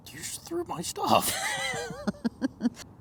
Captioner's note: laughs